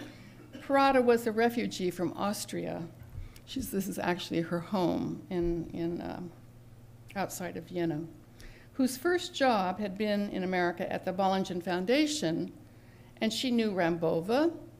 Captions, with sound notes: [Cough in background] Prada was the refugee from Austria. She's the -- this is actually her home in -- outside of Yeno. Whose first job had been in America at the Ballengen Foundation and she knew Rambova,